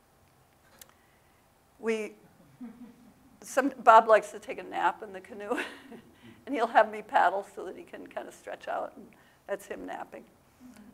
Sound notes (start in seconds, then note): 2.6 audience laugh